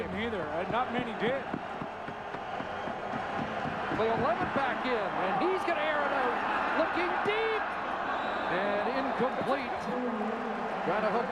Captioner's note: applause and cheering